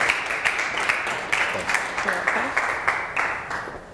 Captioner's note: applause